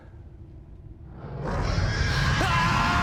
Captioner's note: alien roars